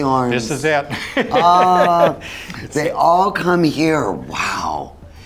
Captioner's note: laughs